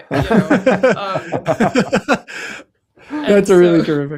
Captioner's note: laughter